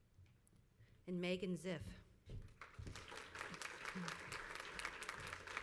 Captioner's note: crowd applauds